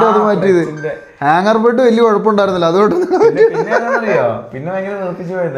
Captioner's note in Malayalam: പൊട്ടിച്ചിരി